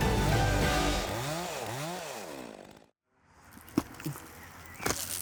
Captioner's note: chainsaws buzzing